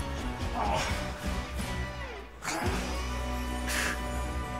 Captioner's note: Richard grunting